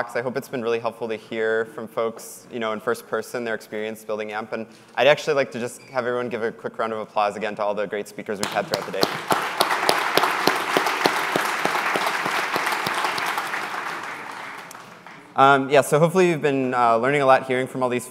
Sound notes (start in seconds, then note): 8.4 applause